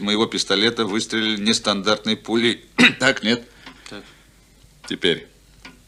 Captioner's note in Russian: откашливается